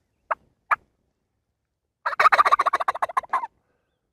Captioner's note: turkey calling